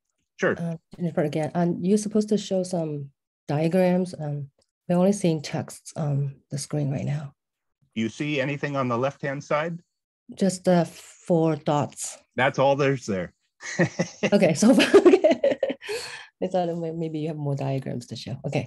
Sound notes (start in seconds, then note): 13.6 chuckles